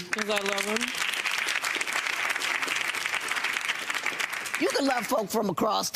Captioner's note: audience applauds